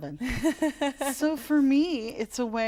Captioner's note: laughter